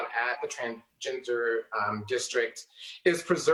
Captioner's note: none